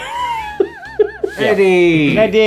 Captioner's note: laughing